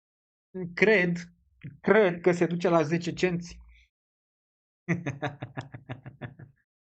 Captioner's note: laughter